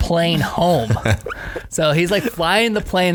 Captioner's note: laughing